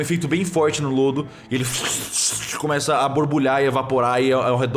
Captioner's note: bubbling